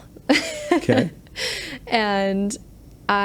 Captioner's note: laughs